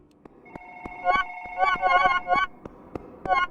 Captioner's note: bright tones; phone ringing